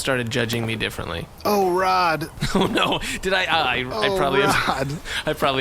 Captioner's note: laughing